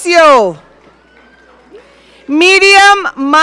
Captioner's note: audience cheering